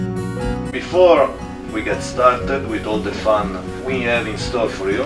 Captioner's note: the captain's voice overhead